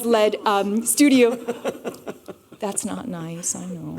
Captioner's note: laughter